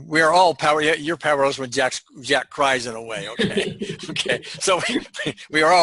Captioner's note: laughs